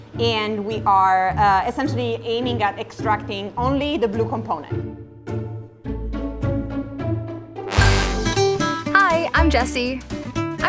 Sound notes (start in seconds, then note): 4.9 curious music; 7.6 positive music; 7.6 horn blowing